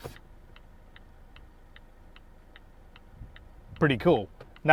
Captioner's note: indicator snapping